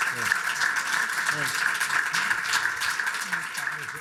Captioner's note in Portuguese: aplausos da platéia